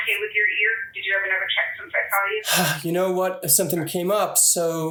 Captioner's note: sigh